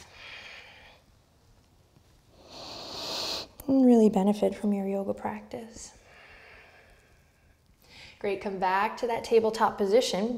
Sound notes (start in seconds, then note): 0.0 exhales; 2.4 inhales